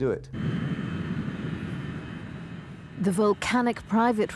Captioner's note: plane engine rumbling